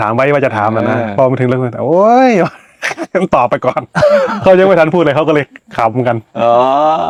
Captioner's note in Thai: เสียงหัวเราะ